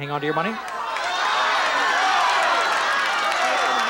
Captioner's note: audience shouting